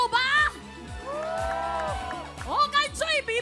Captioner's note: audience cheering